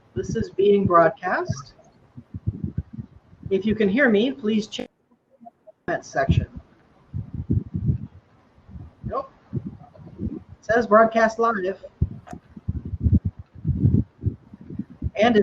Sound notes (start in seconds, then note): 6.2 technical glitch